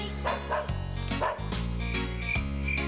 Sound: ruff ruff; chirp chirp chirp

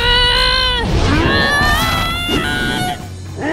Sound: growing growl/scream

